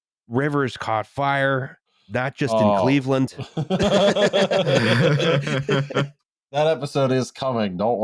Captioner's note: laughs